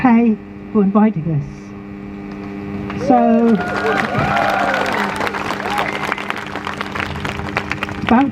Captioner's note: crowd Cheers